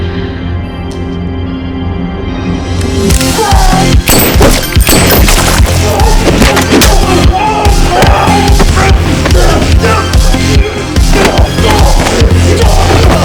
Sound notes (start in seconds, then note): 0.1 dramatic electronic music; 4.0 gun fires; 5.6 henchmen shout; 6.0 dramatic electronic music